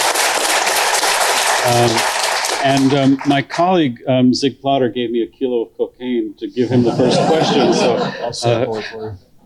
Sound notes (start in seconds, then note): 0.0 applause; 6.6 laughter